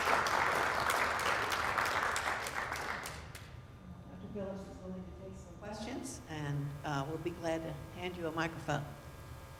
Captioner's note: applause